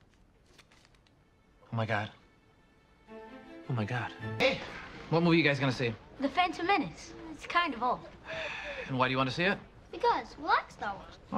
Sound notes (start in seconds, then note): 8.2 sighs